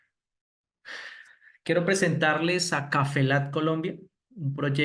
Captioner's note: speaking spanish